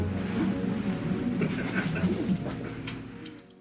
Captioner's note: both laugh